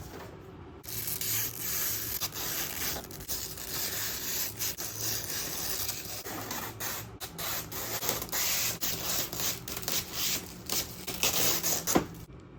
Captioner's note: plastic peel asmr